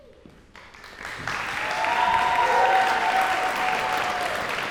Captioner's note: cheers and applause